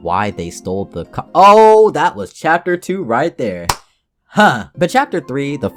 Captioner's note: clap